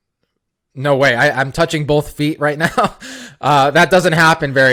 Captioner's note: laughs